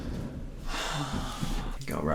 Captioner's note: sigh